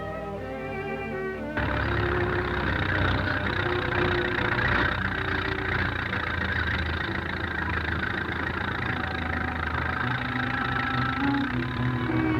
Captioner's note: tractor engine sputters